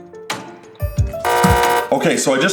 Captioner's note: buzzer sound